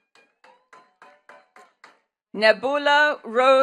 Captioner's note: attendees clapping